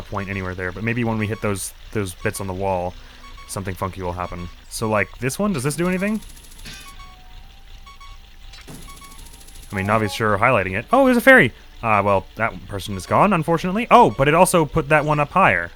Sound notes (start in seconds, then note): 6.8 solid clunk, followed by a more blunt sound